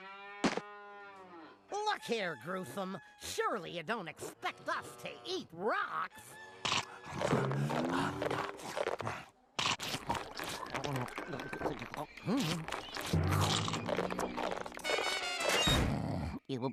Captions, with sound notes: [mooing] LOOK HERE, GRUESOME, SURELY YOU DON'T EXPECT US TO EAT ROCKS? [scrunching] [scrunching] HMM. [snoring]